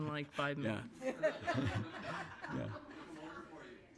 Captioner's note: laughter